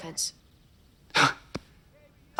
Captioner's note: scoffs